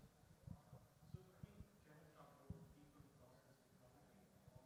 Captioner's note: faintly speaking